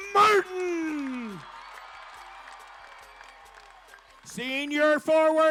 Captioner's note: crowd cheering